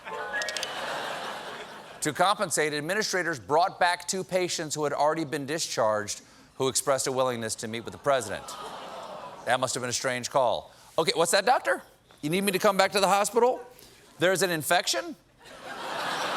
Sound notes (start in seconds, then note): 0.0 piano riff; 0.7 laughter; 9.4 as patient on phone